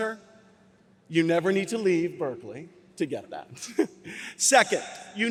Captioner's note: laughs